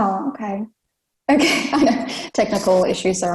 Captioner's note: laughs